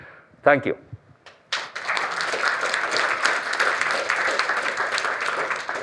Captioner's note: applause